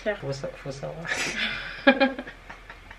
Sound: laughs

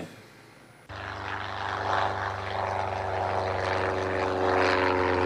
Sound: plane engine revving

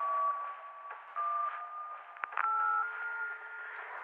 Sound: line beeping

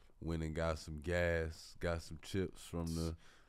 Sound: none

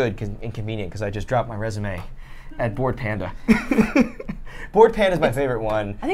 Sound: laughs

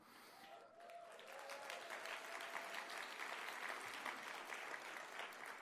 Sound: applause

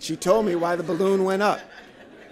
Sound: laughter

